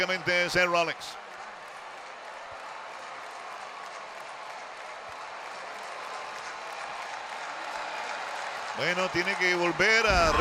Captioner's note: applause